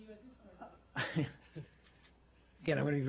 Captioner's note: laughter